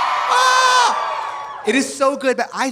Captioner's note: audience cheering; Trixie screams